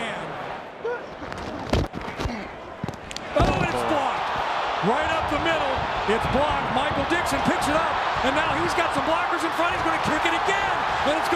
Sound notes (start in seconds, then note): 2.7 crowd cheering